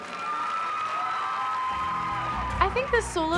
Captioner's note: cheering and applause